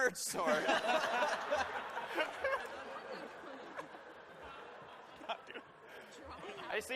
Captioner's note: laughter